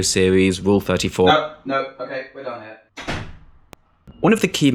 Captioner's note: door slam